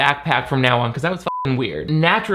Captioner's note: beep